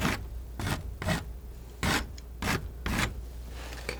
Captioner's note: scratching